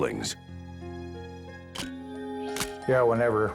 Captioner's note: camera shutter click